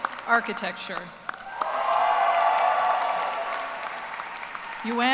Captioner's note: cheers and applause